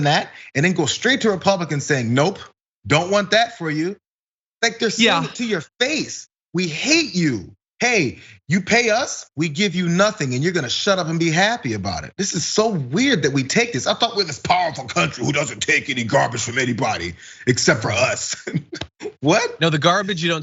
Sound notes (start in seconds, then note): 16.8 laugh